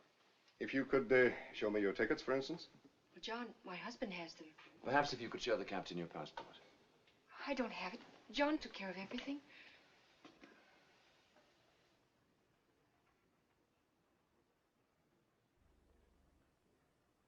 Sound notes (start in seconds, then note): none